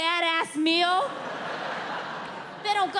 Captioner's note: audience laughing